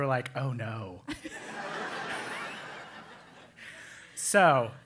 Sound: laugh

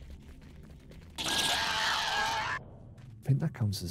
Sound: screaming

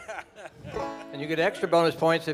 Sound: man laughing

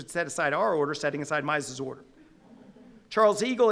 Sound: audience laughing

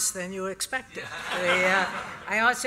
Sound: laughter

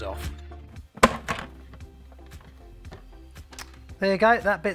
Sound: loud click

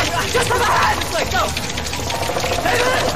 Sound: scuttling

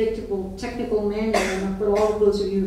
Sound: coughing

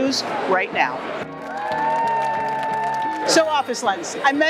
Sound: crowd cheering

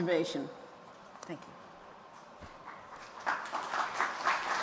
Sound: applause

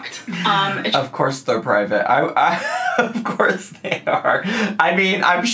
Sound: laughs

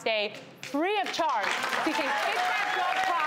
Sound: audience applauds

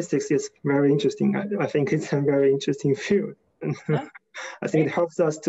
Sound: laughs

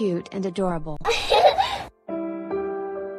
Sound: giggles

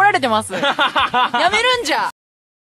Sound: Kaito laughing

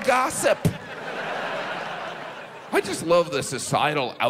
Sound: audience laughs

